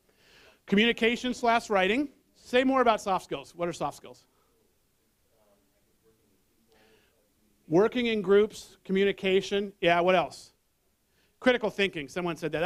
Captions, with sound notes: Communication/writing, say more about soft skills, what are soft skills? [ Background voices ] Working in groups, communication, yes, what else? Critical thinking, someone said that.